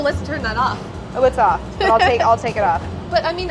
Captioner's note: laughs